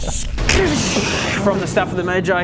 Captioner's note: scxszsccchhhsdchssshhhhhh